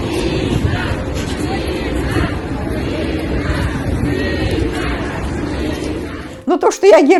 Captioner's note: People chanting: "Nina! Nina!"